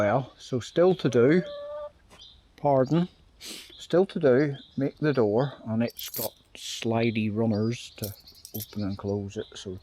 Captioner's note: chicken clucking